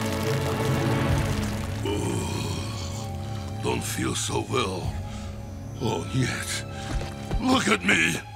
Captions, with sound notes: [groaning] Don't feel so well... oh nyet, look at me!